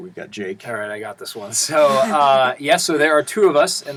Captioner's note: laugh